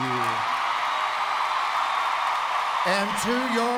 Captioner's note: enthusiastic applause